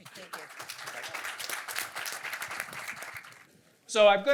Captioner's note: applause